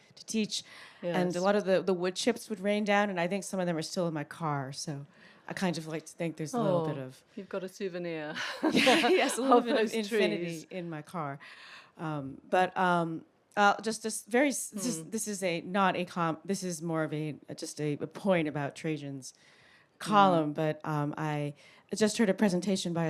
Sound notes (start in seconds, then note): 8.4 laughs